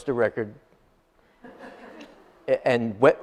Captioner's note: audience laughs